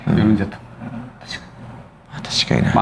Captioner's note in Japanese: 咳払い